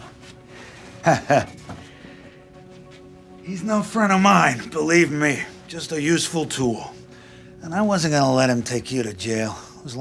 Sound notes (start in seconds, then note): 1.0 Bobby chuckles